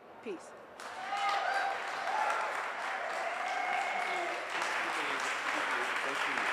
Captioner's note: audience applauds and cheers